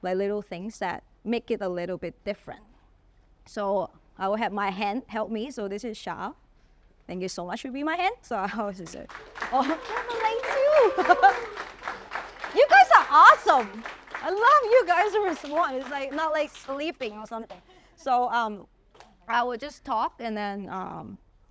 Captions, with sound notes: little things that make it a little bit different. So I will have my hand help me. So this is Sha. Thank you so much for being my hands. [Applause] You guys are awesome. I love you guys... ...like not like sleeping or something. So I will just talk and then